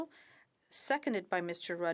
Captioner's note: speaking in French